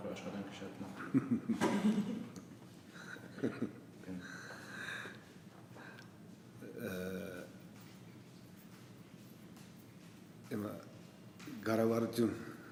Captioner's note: laughs